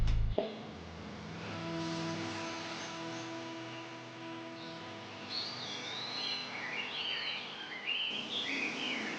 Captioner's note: birds chirpping; soft music